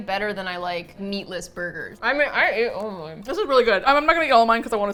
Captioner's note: mouth full